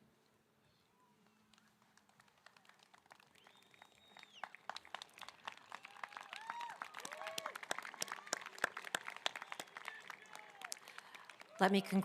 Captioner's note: applause